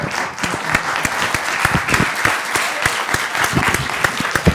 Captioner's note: applause